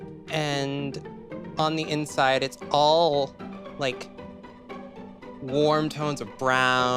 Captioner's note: none